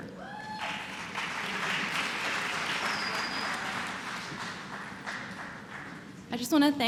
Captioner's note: applause